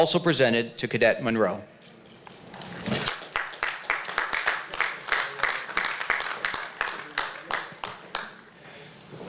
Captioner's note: applause